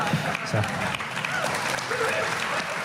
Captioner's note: laughter; applause